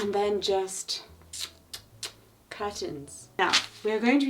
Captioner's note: clicking teeth